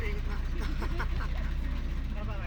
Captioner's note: laughs